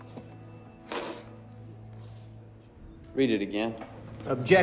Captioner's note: sniffles